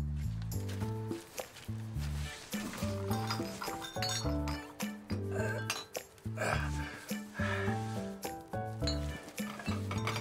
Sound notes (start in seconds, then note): 2.4 bottles clinking